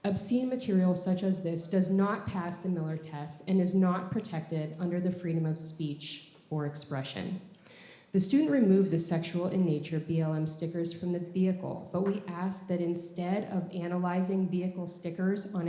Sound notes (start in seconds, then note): none